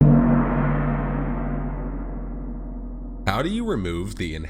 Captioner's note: gong rings